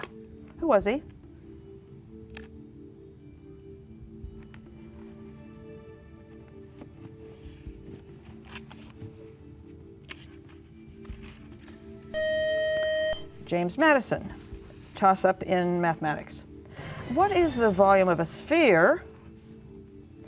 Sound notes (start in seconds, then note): 12.1 loud buzzer